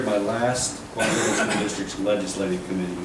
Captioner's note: coughing drowns out speaker